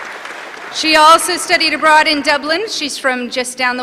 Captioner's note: applause